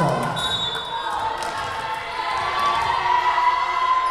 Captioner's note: whistle blowing